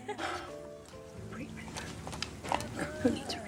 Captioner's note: Hailey laughs; sighs